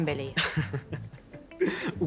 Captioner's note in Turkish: Gülüyor